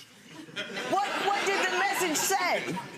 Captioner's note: audience laughs